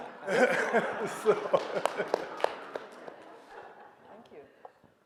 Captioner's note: audience laughing; clapping